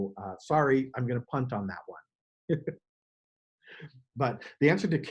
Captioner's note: chuckles